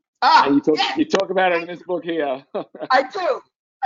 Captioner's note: laughs